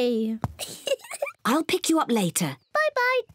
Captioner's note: giggles